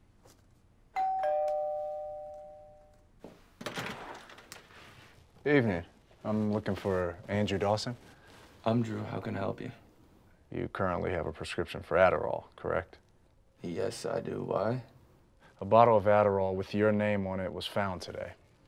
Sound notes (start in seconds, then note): 0.9 doorbell ringing